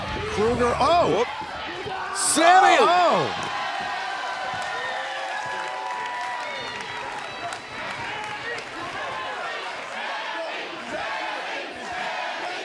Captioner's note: crowd cheering